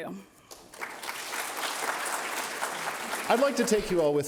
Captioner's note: applause